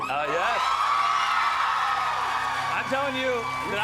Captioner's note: cheers and applause